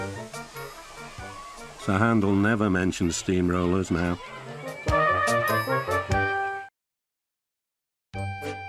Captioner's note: children shouting and cheering